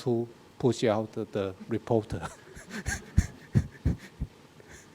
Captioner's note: laughs